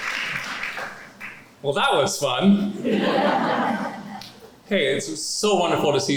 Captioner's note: laughter